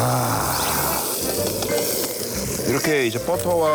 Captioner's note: the meat is making that beautiful sizzling sound